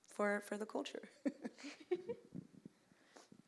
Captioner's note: chuckles